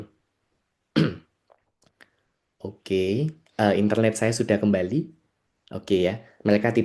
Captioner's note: berdehem